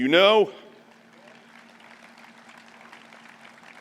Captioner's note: applause